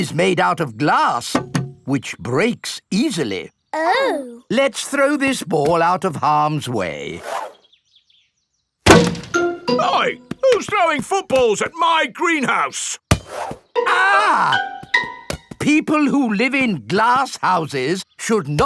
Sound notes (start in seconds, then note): 1.4 knocks; 8.8 thuds; 13.8 screams